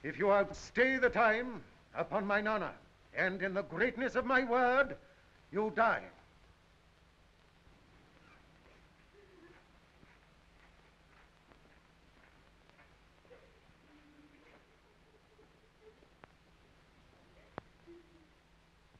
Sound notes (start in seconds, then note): 9.1 women sobbing